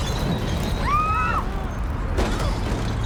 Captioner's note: woman screaming